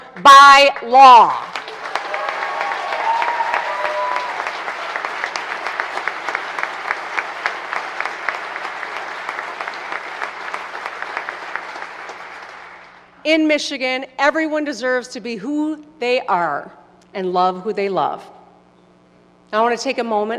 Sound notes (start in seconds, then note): 6.3 applause